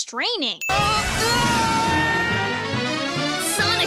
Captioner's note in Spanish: gruñe, grita